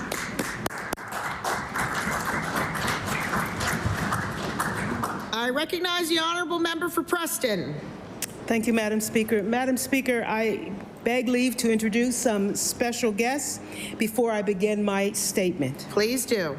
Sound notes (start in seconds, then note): 3.3 applause